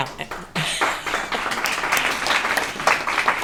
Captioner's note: applause